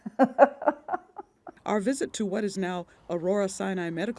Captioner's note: laughs